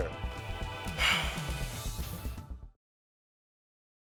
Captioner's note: sighing